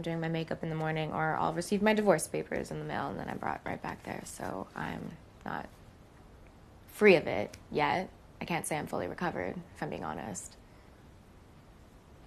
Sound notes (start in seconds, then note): none